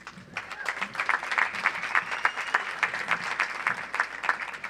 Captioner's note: audience applauds